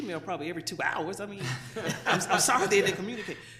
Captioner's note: laughter